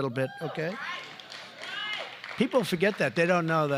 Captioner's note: applause